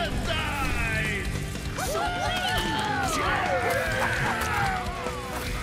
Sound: cheering

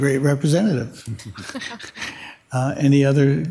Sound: members softly chuckling

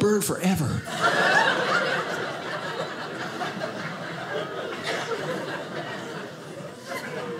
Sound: audience laughing

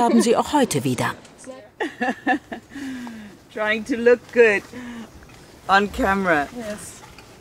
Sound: laughing

